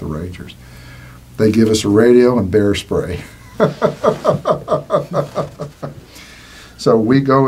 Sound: laughing

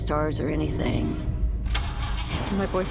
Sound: engine cranks

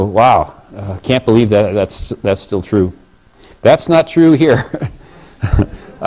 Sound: laugh

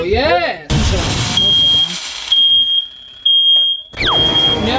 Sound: fire alarm beeps

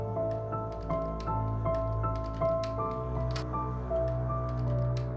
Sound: door rattles

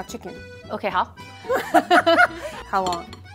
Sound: speaking in mandarin; both laughs

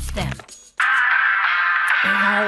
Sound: watch playing tune

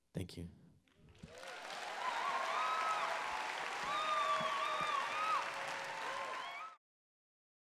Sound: applause

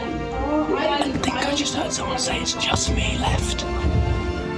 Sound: whispering

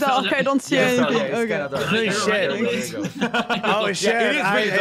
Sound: laugh

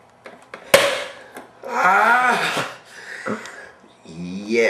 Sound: tap

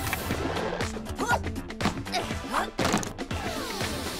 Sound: grunting

